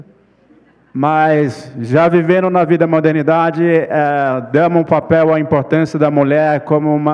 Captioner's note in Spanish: ponente habla en portugués